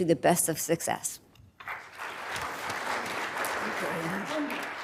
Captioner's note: applause